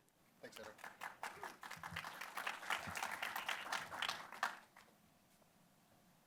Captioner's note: applause